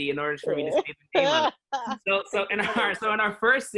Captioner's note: laughing